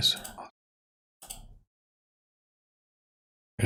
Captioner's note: blank Audio